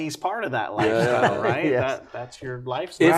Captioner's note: laughs